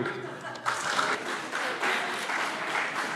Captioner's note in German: Beifall CDU